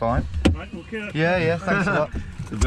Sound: laughing

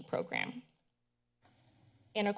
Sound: pause

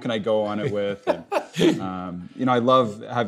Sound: laughs

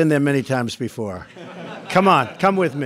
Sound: laughter

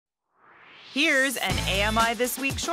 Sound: swoosh

